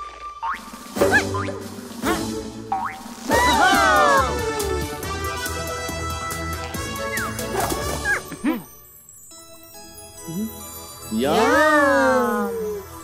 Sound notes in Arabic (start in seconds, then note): 3.3 صوت حماس; 4.8 موسيقى حماسية